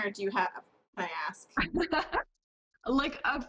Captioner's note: laughs